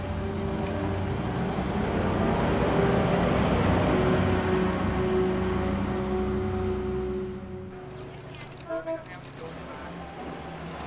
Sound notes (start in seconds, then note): 8.3 honking